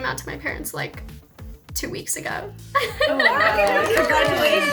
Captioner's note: laughs